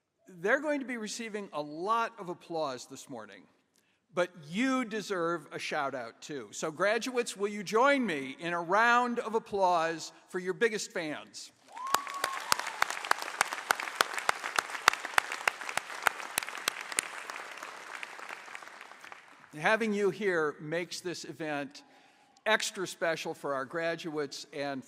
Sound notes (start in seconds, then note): 9.3 applause